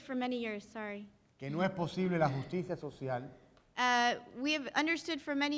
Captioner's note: speaking in Spanish